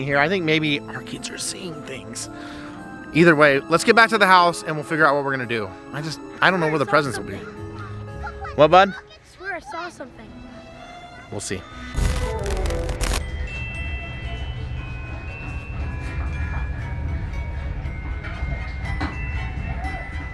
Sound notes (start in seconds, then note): 9.1 kids yelling